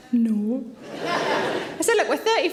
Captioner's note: audience laughing